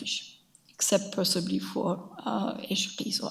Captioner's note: speaks in a foreign language